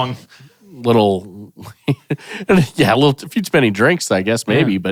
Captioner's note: chuckles